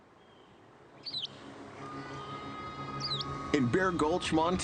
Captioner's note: birds chirping